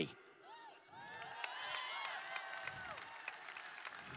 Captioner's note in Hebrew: הקהל מריע